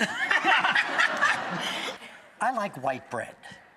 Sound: laughing

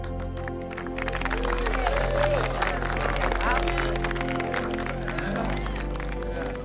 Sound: applause

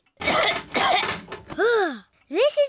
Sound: coughs

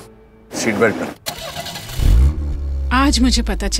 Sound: car engine starts

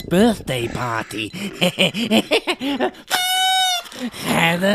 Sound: laughter

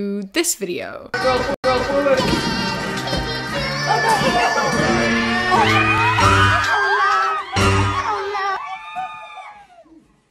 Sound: people scream in excitement

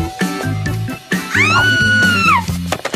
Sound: screams

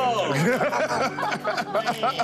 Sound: laughter

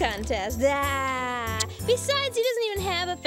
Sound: laughing

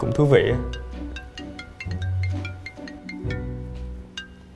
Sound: phone ring

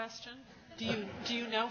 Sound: laughs

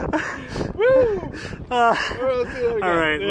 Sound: laughing together

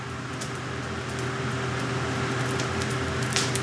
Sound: fire crackling, machine whirring

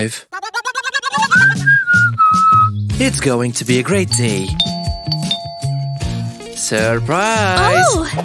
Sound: whistles smugly

